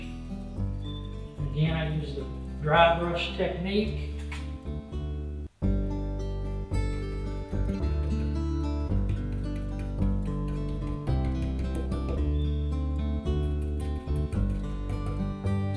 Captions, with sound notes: Again, I use the dry brush technique. (gentle guitar music continues) (brush tapping)